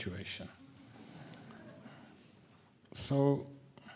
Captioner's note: audience chuckling